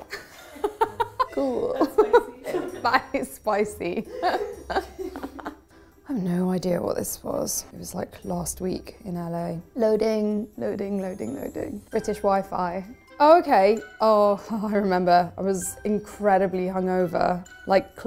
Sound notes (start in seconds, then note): 4.0 group laughing